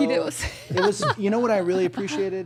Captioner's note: participant laughing